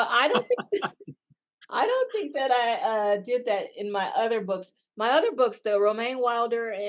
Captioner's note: laughs